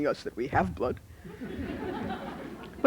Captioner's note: laughter